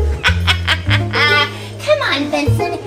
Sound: laughs

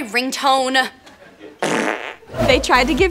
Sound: farting

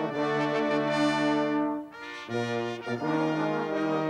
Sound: none

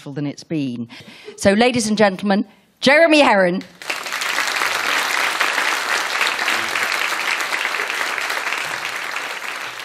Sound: applause

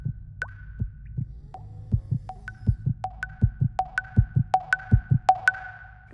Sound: faster pounding heartbeat and water drops

